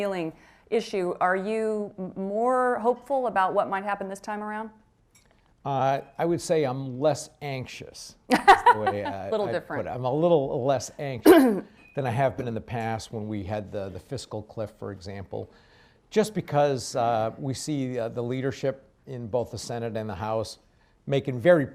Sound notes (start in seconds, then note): 8.3 laughs